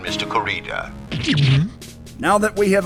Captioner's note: gulp!